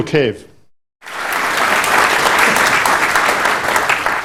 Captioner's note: applause